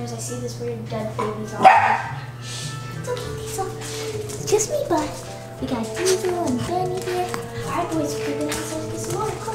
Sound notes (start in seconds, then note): 1.6 barking; 5.9 cooing at dogs